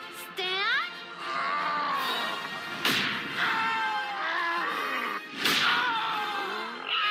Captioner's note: slow-motion yelling and roaring; Waddles slow-motion squealing